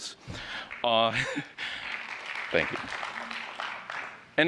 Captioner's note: applause